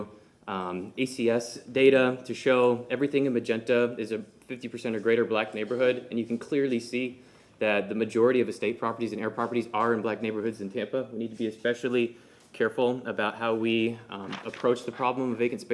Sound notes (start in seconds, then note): none